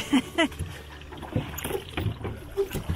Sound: chuckles

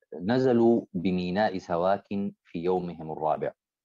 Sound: speaking Arabic

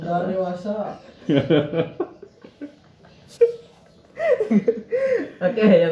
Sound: laughing

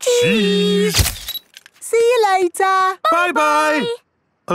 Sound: camera click

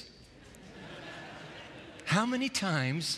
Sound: laughter

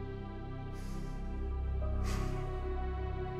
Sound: exhales deeply

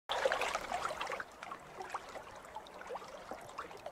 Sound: water sloshing

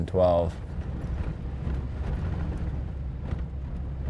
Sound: truck motor

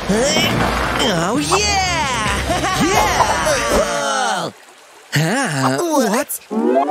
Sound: groans; making happy sounds

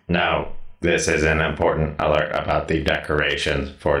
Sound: none

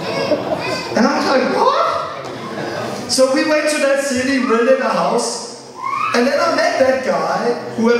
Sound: laughter

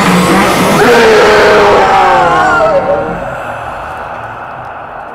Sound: ghostly voice

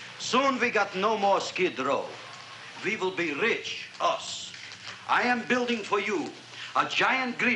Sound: none

